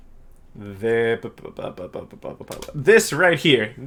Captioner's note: idle thinking/stalling noises